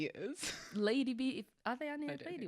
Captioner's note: chuckles